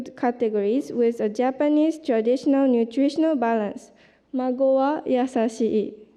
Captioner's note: japanese